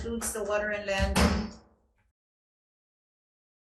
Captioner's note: gavel bangs